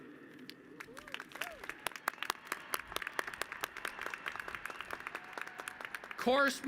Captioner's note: applause